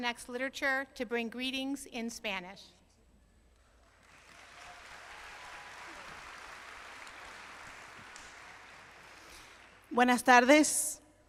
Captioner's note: applause